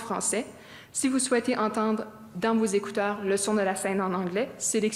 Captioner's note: speaking French